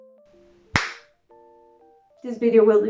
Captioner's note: c l a p s